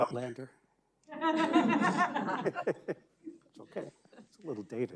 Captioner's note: audience laughing